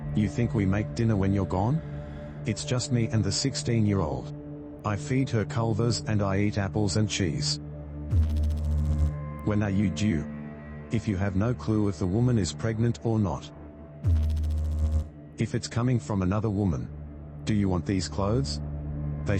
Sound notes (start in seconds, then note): 8.1 electrical noise; 14.0 electrical noise